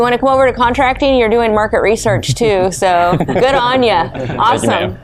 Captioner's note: laughing; laughs